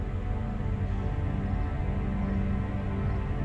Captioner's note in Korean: none